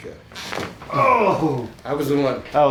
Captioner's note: man groans